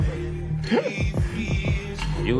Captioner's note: laughs